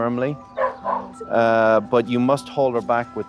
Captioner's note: Apple barking